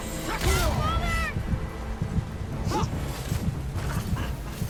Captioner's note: characters grunting